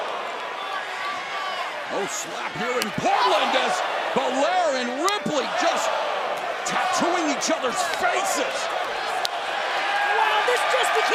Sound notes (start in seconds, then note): 2.6 crowd chatter